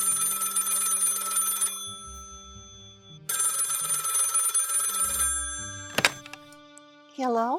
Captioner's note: phone rings